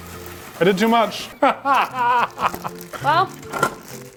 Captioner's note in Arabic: يضحك